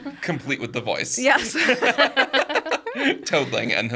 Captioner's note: group laughing